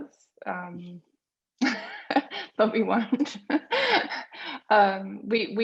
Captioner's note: laughs